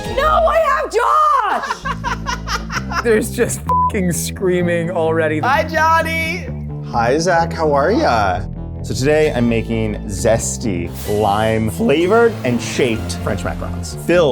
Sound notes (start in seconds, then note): 1.4 laughs